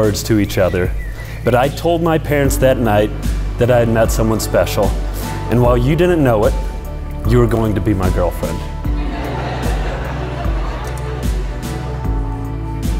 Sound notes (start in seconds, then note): 8.9 crowd laughs